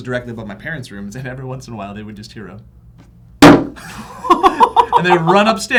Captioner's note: slam